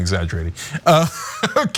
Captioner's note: laugh